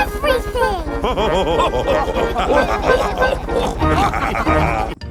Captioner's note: chuckles; all laughing